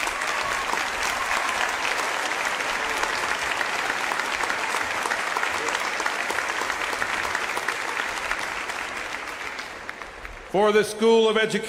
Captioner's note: applause